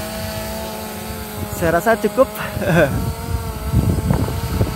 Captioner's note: chuckle